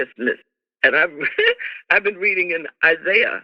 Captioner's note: laughter